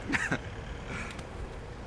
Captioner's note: chuckle